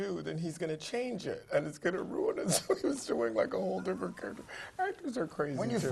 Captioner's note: laugh; laugh